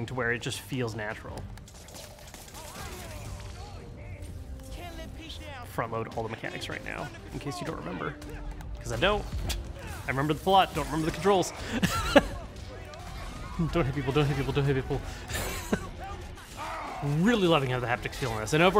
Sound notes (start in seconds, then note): 1.6 webs blasting; 2.7 men yelling; 11.5 laughs; 15.0 laughs